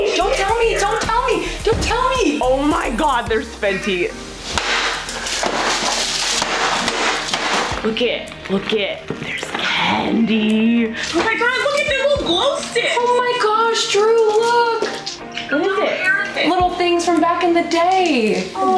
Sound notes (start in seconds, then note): 4.5 loud banging noise